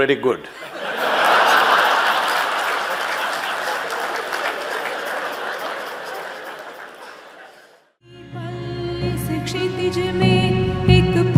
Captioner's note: laughs